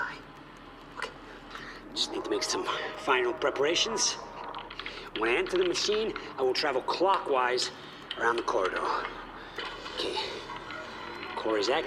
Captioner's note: the tape's tracking begins to act up as the time machine core starts up